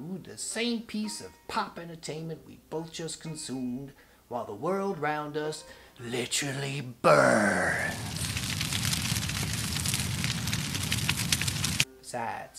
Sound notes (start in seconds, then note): 7.2 fire crackling